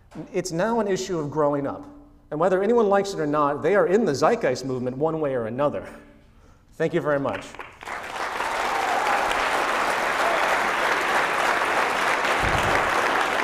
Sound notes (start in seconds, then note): 7.8 cheering, sustained applause